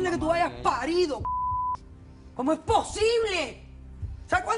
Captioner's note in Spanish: Bip